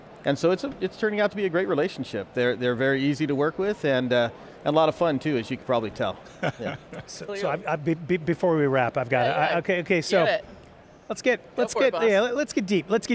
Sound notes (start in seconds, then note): 6.4 laughing